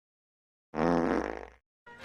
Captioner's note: fart noise